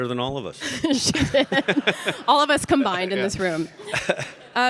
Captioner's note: laughs